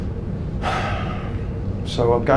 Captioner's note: sighs